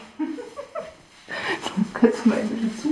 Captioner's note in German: lacht